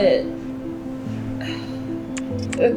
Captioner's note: sigh